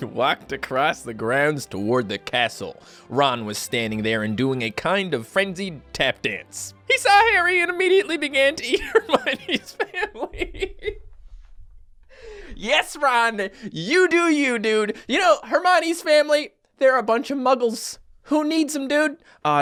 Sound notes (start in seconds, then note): 8.8 laughts while reads